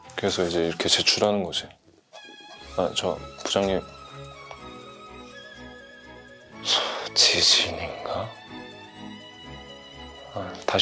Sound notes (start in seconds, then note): 2.7 hesitant; 6.6 sighing Is it an earthquake?